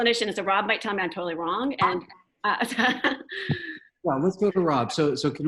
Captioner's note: chuckles